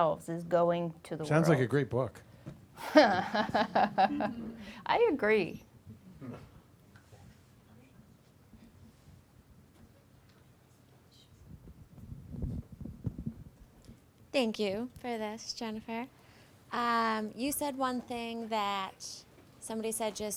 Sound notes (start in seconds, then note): 2.8 laughing; 11.5 whispering